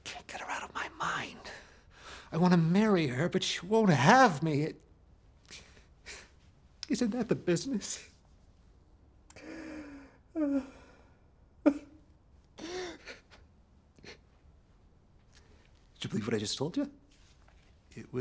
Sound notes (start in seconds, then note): 11.6 man crying